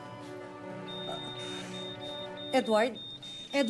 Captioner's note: EKG beeping